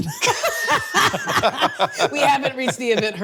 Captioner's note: both laughing